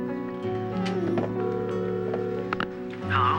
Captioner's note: line ringing